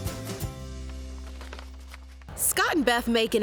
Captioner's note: notes shuffling